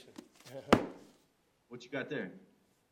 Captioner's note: book slams